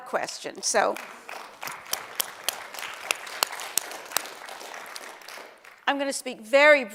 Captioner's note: applause